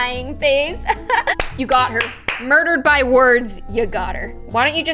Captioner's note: clapping